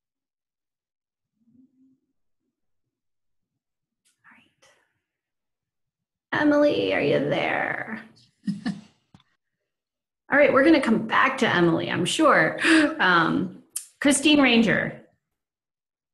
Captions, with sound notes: All right. Emily, are you there? (laughs) All right, we're going to come back to Emily, I'm sure. Kristine Ranger.